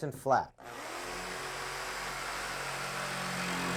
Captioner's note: drilling